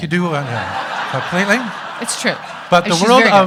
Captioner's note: audience laughing